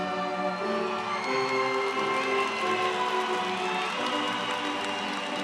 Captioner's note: crowd applauds